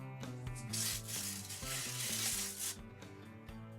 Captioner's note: paper ripping